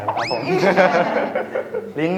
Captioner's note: laugh